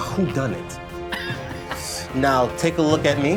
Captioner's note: laughing